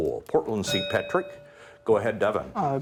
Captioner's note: bell ringing